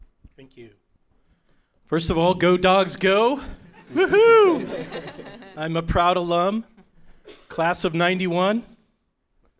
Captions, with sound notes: >> Thank you. First of all, go Dogs, go! Woo-hoo. [Laughter from audience]. I'm a proud alum, Class of '91.